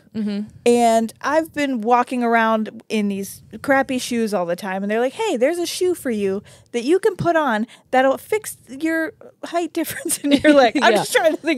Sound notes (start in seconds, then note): 10.3 chuckles